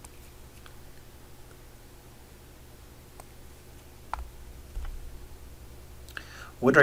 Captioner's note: writing Sounds